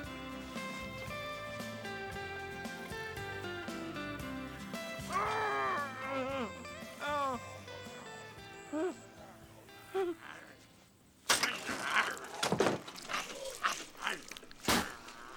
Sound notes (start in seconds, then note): 5.1 groaning; 10.3 zombies Growling, Smacking Lips